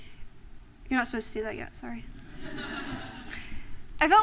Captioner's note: laughter